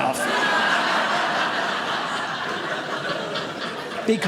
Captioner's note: audience laughing